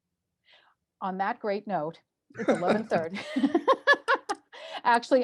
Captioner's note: laugh